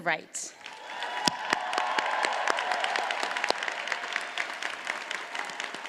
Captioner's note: audience cheers and applauds